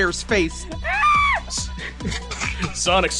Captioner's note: screams